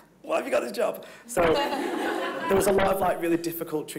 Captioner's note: everyone laughing